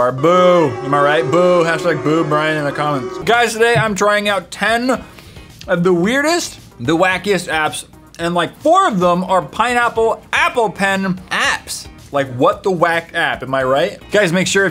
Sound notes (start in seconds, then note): 5.1 cocaine sniff